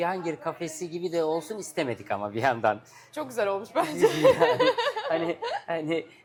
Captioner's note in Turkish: kahkaha